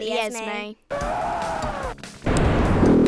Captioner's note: man on TV screaming; video game pinging